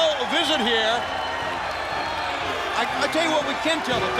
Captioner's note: crowd chatter